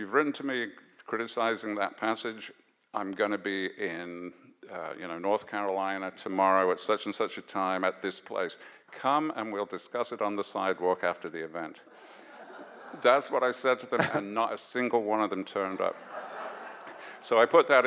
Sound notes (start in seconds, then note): 12.0 audience laughs